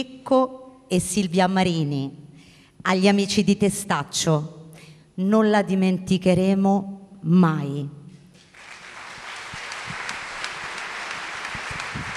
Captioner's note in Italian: Applauso